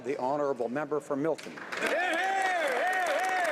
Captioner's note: speaking French